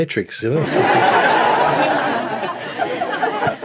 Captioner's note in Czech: smích